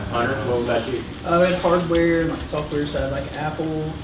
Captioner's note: voiceover; voiceover